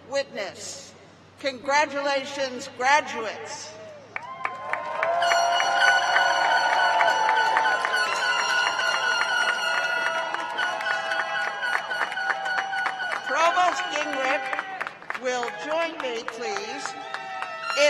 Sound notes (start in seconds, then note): 8.1 cheers and applause